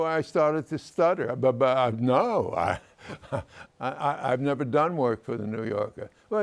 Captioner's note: chuckles